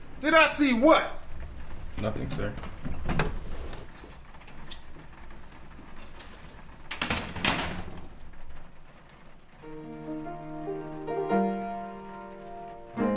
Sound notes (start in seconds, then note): 6.9 doors slam shut; 9.6 pensive music